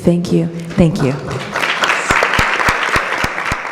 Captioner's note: applause